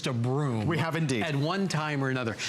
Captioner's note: laughter